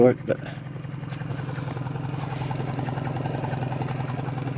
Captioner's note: motor burbling